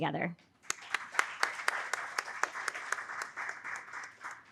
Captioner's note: audience applauding